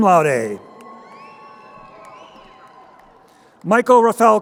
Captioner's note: crowd cheering